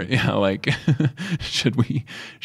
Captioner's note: chuckles